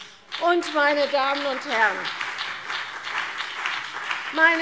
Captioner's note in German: Beifall CDU und BÜNDNIS 90/DIE GRÜNEN